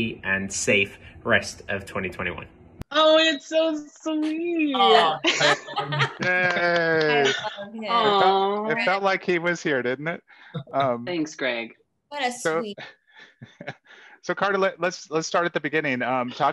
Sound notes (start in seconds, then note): 4.8 all laugh; 5.4 clap